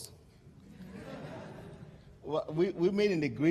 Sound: laughter

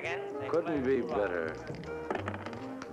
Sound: dice thumping

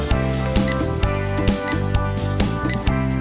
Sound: 🔥 Oven Sound 🔥

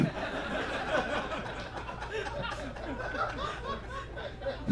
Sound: audience laughs

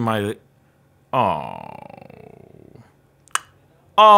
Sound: groans

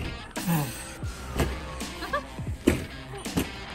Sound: giggling

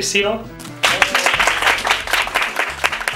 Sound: applause

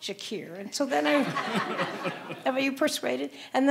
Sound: audience laughing

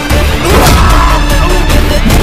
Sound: thuds

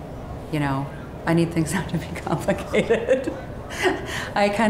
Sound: laughs

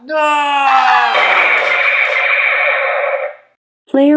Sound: gunshot

